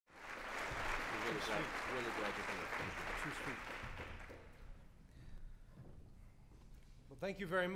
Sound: applause

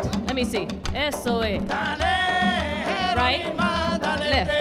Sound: woman speaking in Spanish

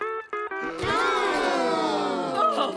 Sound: sighing

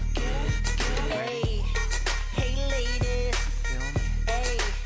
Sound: none

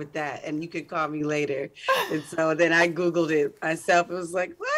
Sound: laughs

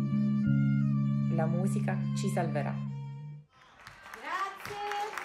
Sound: speaking foreign language; people applauding

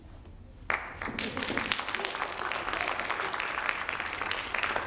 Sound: audience applauding

